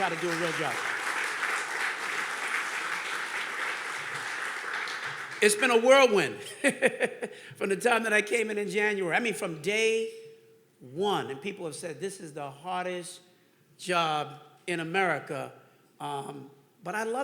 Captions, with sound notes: I came here to try to do a real job. (audience clapping) It's been a whirlwind from the time that I came in in January, I mean, from day one. And people have said, "This is the hardest job in America."